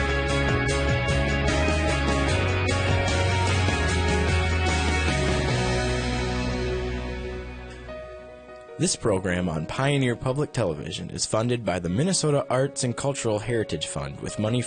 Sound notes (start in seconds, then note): 5.2 passionate rock music; 9.0 voiceover